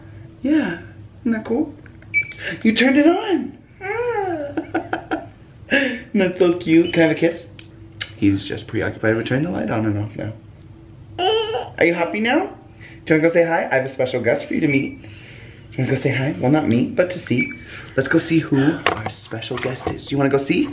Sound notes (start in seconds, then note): 2.7 gasp; 3.9 laughing